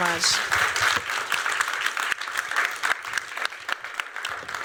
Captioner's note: applause